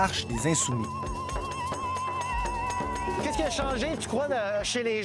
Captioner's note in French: cris et tambours